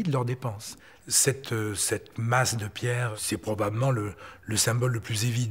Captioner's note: French spoken audio